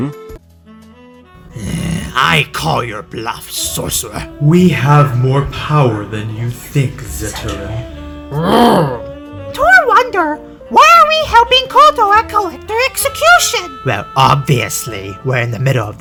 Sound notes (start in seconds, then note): 1.4 Reptile sighs cuz hes not in mk11; 7.2 Torr Growls back at reptile; 9.6 sonic says with his lovely girl voice